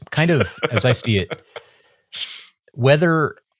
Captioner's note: laughing